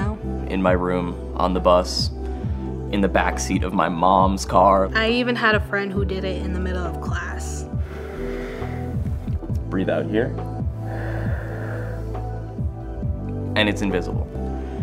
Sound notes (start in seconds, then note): 7.7 inhales; 10.5 exhales